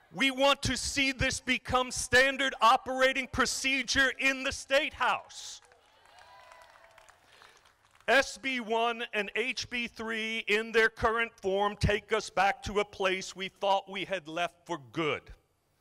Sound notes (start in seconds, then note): 5.5 crowd applauding